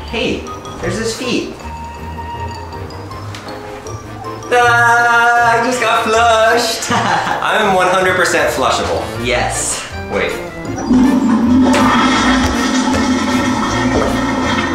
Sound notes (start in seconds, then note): 6.7 laughs; 10.6 toilet flushing